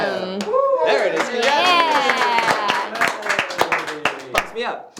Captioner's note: cheers and applause